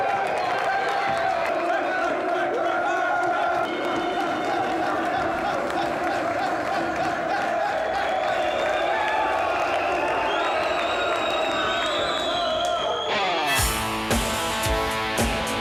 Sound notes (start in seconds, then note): 1.3 audience chants; 7.7 whistling